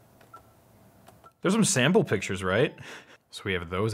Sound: laughs

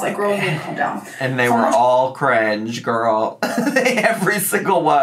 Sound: laughs

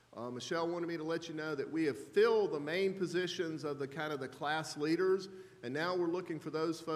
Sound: none

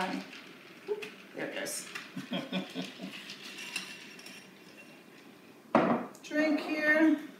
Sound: laughs

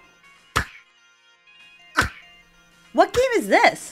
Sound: characters grunting

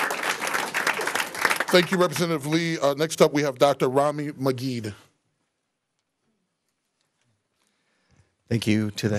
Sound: applause

